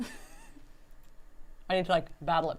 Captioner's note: laughs